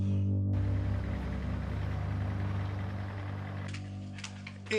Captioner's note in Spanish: Sonido del motor